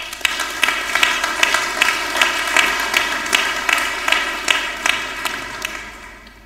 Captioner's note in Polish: oklaski